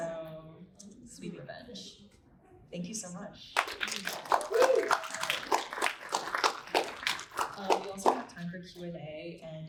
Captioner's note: applause